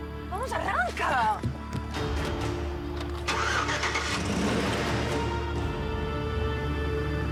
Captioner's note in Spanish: portazos